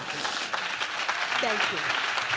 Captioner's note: audience claps